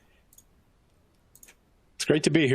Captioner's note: mouse clicking